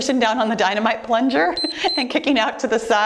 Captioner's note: timer beeps